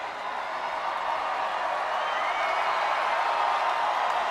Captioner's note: audience cheers